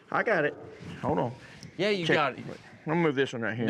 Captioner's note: says into microphone